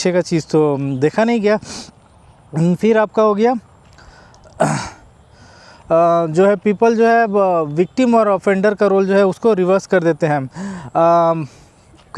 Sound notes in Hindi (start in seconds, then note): 1.4 नाक से की जाने वाली आवाज़; 4.5 गला साफ़ करने की आवाज़